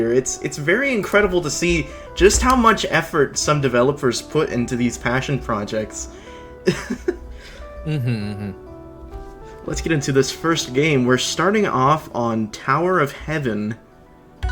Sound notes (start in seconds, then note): 7.7 laughs